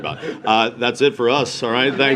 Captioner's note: laughter